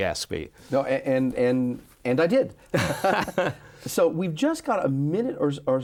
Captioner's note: both laughing